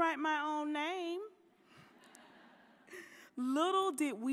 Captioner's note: audience laughing